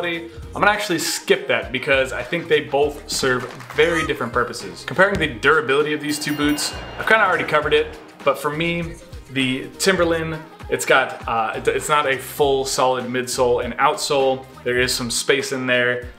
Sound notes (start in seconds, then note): 3.4 audience claps; 5.6 counter chimes